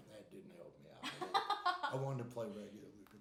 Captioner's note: laughing